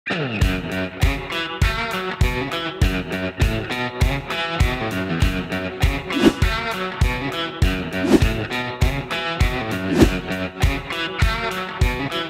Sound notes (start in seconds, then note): 0.3 rock music; 8.0 wind rushing